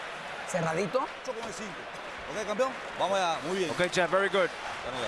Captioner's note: speaking Spanish